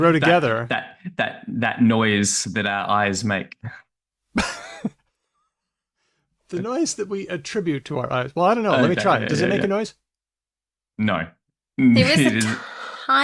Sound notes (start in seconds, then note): 6.6 chuckles